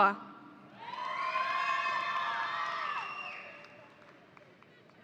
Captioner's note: audience cheering